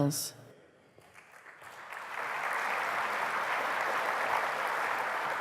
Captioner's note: applause